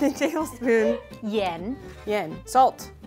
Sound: speaking in mandarin

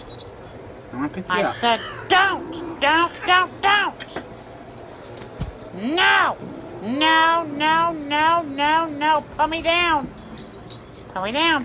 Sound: Caprice meows

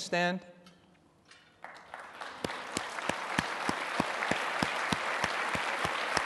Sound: applause

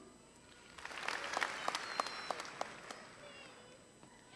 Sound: applause

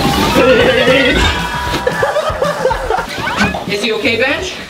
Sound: laughing

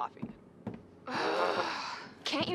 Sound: groaning

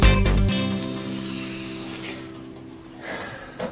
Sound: strained sigh

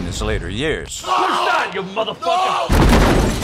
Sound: screams

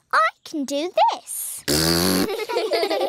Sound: blows raspberry; laughter

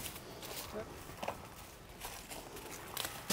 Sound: footsteps

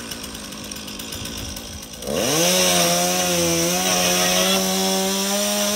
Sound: chainsaw roaring and buzzing

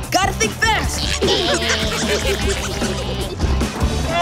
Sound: laughing

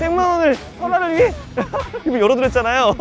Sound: hahahaha

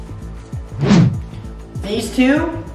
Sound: air whooshing

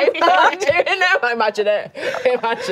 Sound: laughing

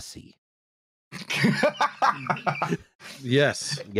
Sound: laughter

